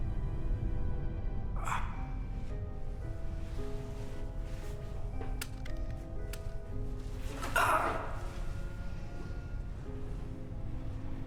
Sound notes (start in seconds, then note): 0.0 dramatic music; 1.6 grunting; 4.7 dramatic music